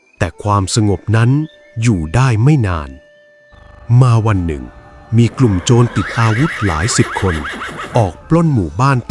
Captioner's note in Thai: เสียงหัวเราะ